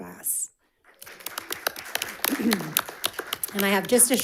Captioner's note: audience applauding